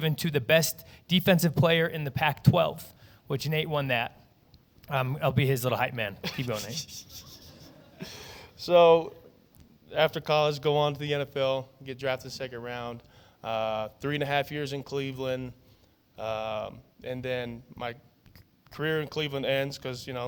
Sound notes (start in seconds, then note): 6.2 chuckles